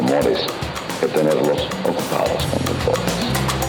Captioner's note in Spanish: voz de Renny Otolina